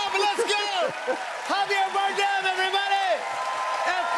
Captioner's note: cheers and applause